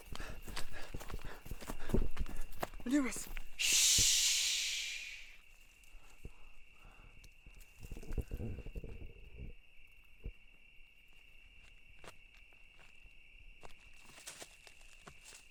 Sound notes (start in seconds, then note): 0.7 heavy breathing; 7.9 crickets chirping